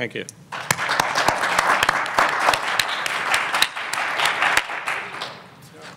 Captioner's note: audience clapping